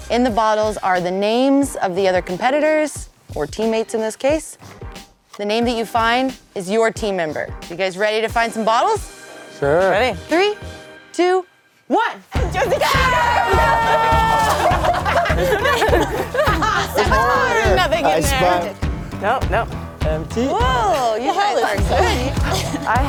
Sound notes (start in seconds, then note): 12.4 laughing; 12.4 yelling; 20.7 laughing